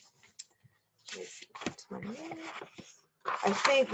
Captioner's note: page turning